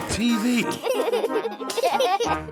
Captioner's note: laughter